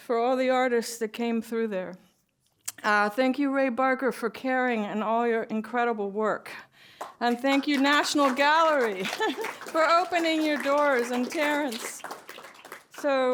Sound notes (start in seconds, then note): 8.7 applause